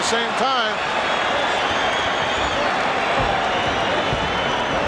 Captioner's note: audience cheering